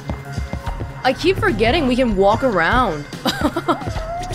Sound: chuckles

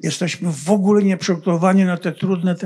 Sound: foreign language

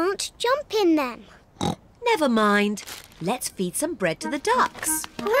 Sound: snorts

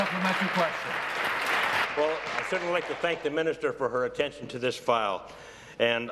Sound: applause

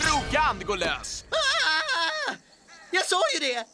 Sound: screaming

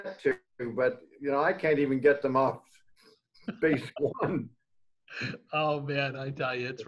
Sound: laughs

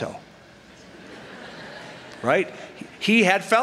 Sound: laughter

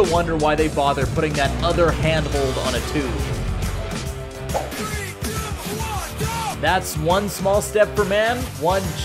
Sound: 3,2,1 GO sound effect

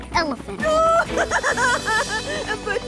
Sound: crying

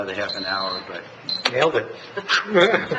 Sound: alarm beeps; laughs

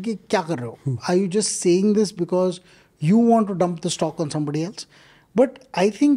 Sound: speaks in Hindi

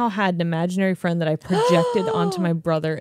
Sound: gasps

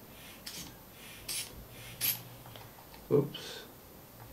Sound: squeeze bulb pumping air

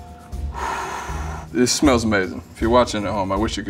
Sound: deep exhaling

